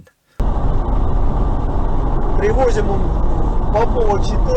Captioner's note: traffic noise rumbling; speaking in a foreign language